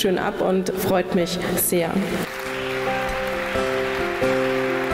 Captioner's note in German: Klatschen